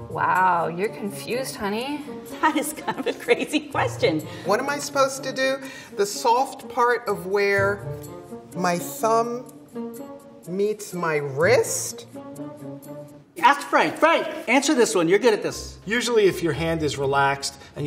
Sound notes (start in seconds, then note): 2.4 laughing